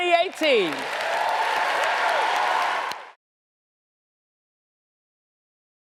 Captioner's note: audience cheers and applauds